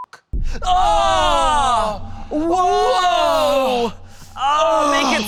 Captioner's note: men screaming